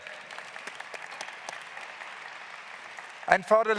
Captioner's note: claps